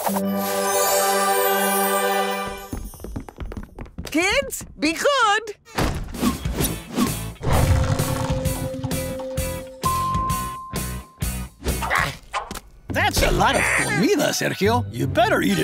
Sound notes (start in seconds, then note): 9.4 dinging; 11.8 grunting